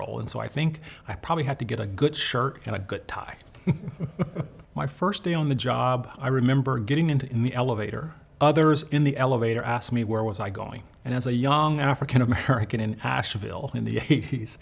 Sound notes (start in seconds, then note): 3.6 laughs